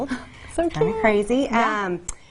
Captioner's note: laughs